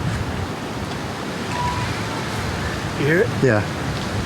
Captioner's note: whistle wails